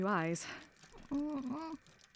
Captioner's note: etta whimpers